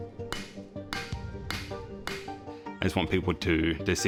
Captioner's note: hammer whacks